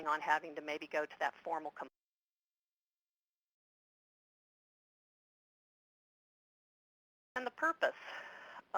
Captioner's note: audio cuts out